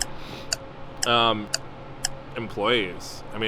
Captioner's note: clock ticking